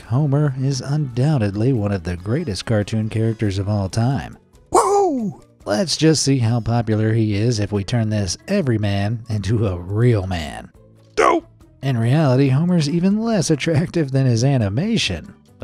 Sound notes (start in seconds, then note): 11.2 Homer sighs